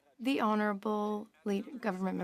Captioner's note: speaking in French